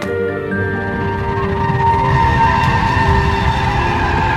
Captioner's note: train screeching